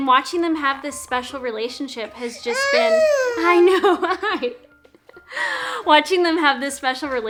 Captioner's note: laughs